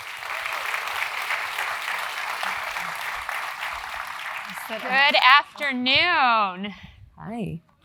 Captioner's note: applause